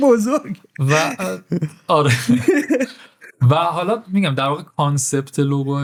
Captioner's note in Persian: خنده